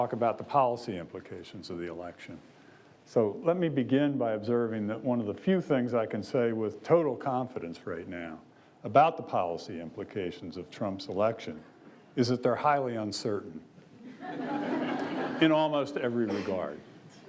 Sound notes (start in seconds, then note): 14.0 audience laughs